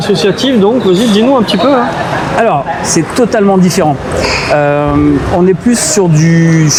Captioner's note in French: grognement